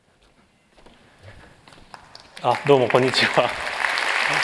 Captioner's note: applause